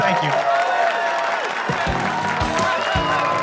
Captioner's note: cheers and applause